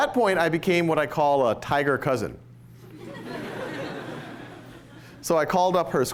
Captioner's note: laughter